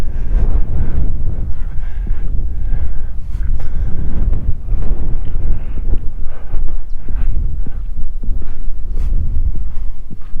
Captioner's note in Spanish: viento